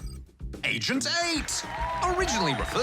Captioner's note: cheering, applause